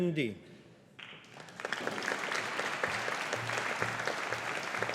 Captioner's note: audience applauding